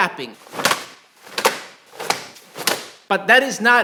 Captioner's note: slapping